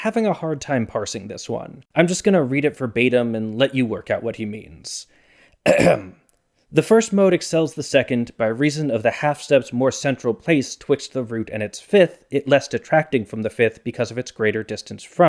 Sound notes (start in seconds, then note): 5.6 ahem